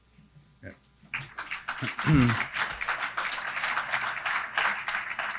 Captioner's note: crowd applauds